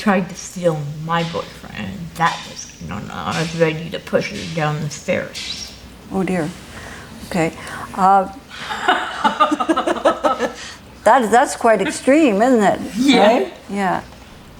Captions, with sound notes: Oh dear. Okay. [Both laugh] That's quite extreme, isn't it? Yeah.